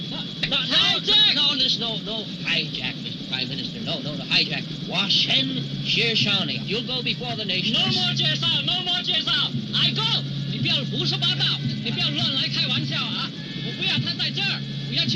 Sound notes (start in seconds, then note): 4.3 speaking in foreign language; 8.3 shouting in foreign language; 10.4 speaking in foreign language